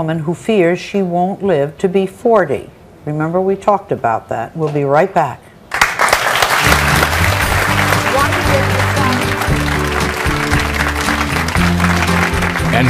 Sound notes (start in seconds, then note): 5.7 audience applauds; 9.8 upbeat music